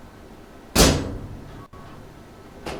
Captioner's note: slams